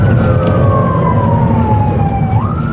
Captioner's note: sirens aring